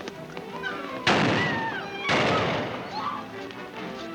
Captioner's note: shoes clacking; people screaming; gun booms; dramatic music